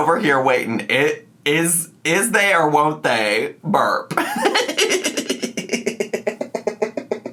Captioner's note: laughs